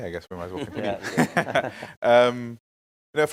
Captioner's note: panel chuckling